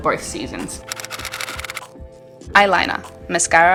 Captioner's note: typewriter style clicking